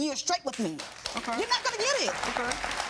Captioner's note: audience applauding